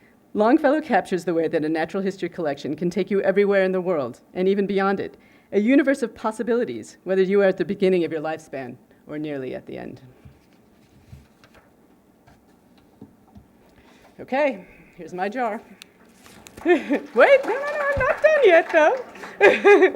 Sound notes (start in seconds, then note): 16.2 applause